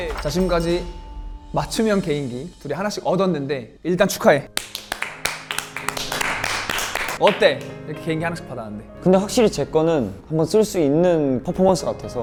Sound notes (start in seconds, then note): 4.5 applause